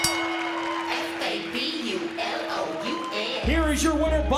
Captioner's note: bell ringing